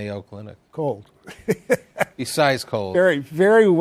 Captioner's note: laughs